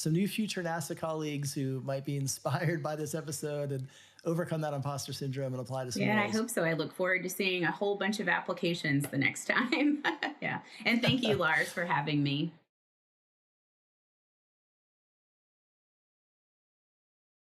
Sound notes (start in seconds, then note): 10.7 laughs